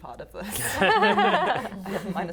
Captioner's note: laughing